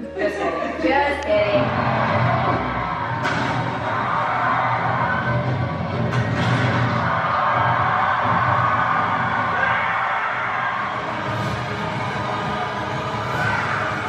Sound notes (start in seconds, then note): 2.3 crowd cheering on TV; 10.7 dramatic music on TV